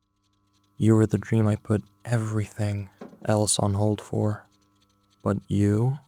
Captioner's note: thump